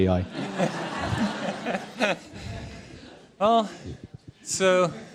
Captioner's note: laughter